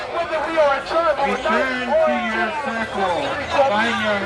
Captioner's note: voiceover